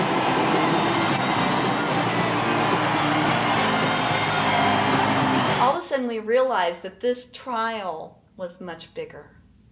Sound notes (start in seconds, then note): 0.1 screams, shouts and outrageous yodeling